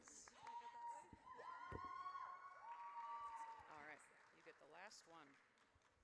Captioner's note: audience cheers